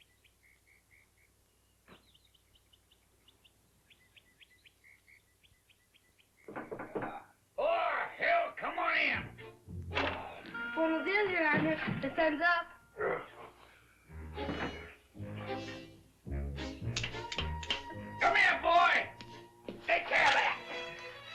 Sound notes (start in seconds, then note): 6.4 knocking; 12.9 groans; 14.3 whimsical music; 16.8 slapping sound